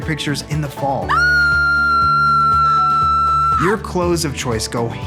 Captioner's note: screaming